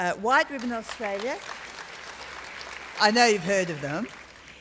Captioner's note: applause